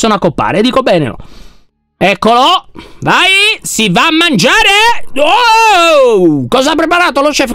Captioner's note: screaming